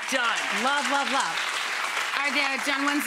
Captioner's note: audience applauding